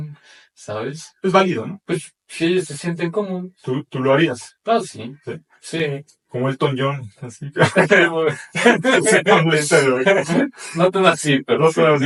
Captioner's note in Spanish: risas